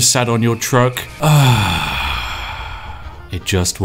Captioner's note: long, Deep Satisfied Sigh